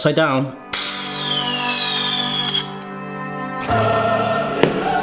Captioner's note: soft uplifting music; gas hisses steadily; triumphant music